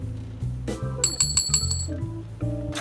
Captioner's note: clinking